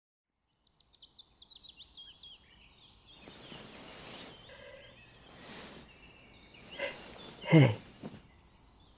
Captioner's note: fade in birds chirping. You wake up and look around